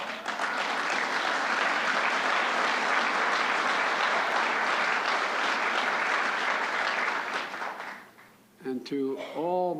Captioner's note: applause